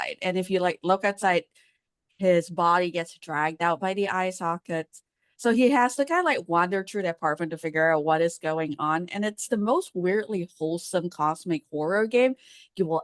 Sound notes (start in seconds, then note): none